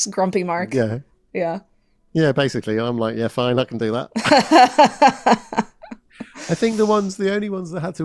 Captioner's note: both laugh